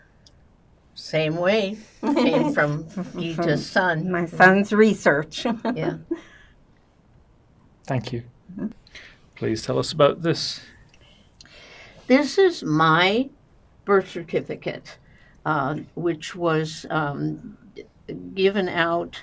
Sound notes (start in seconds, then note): 5.2 laughing